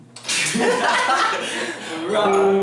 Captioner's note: burst into laughter